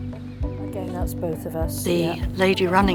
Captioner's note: background chatting